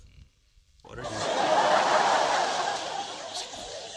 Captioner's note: laughter